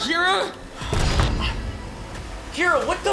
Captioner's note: door bangs open